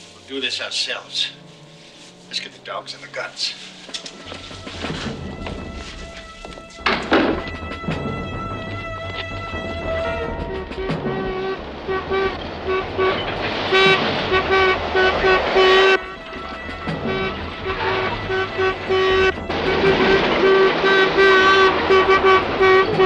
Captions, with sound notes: We'll do this ourselves. Let's get the dogs and the guns. (dramatic music) (horn honking rapidly) (dramatic music) (horn honking rapidly)